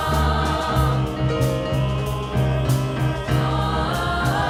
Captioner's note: high voices singing; deep voices; high voices